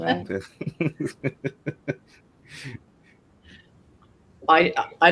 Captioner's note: laughter